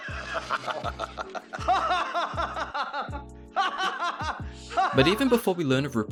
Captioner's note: rupert laughing